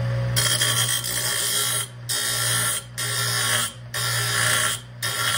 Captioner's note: grinding